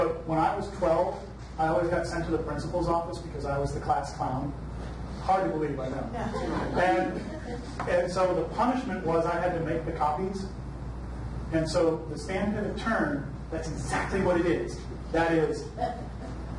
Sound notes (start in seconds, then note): 6.2 audience laughs